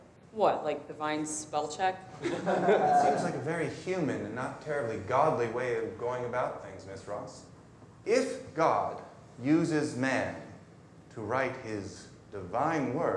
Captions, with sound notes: - What, like divine spell check? (students laughing) - That seems like a very human and not terribly godly way of going about things, Ms. Ross. If God uses man to write His divine word,